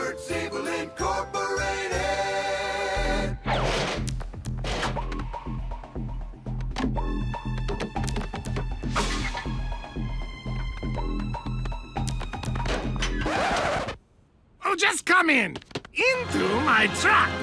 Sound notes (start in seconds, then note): 13.2 needle scratches